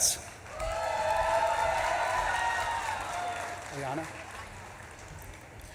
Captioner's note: audience claps and cheers